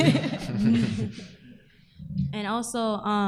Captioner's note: group laughing